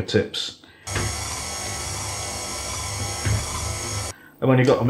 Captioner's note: machine chuggin